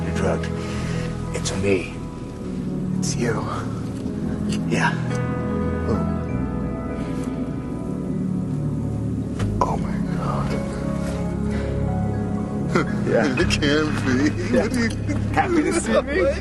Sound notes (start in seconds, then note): 8.4 шепот